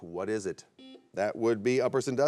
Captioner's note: buzzer beeps